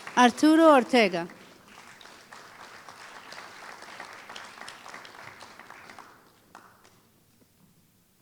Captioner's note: applause